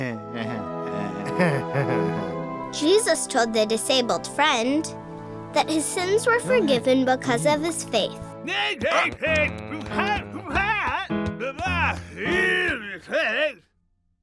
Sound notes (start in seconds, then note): 0.3 chuckling; 3.1 voiceover